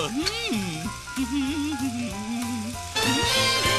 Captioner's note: humming